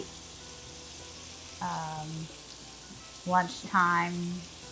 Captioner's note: shrimp sizzling